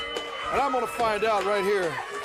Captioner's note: bell ringing